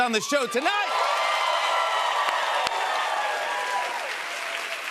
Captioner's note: cheers and applause